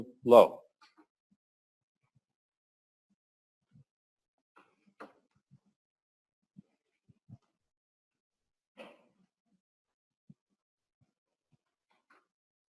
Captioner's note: pause